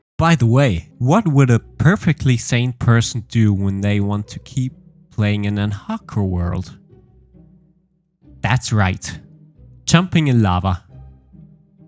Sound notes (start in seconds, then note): none